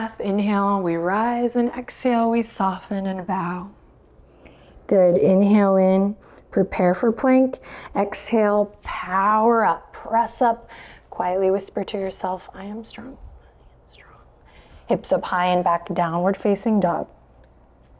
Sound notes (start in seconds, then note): 13.5 whispers